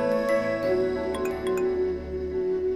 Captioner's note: Cell phone beeps